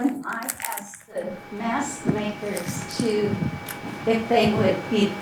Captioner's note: feedback hissing